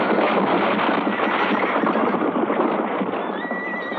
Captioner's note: horse neighing